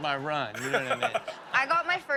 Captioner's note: Steelo laughs